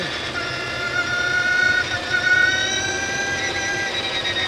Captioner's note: engine revving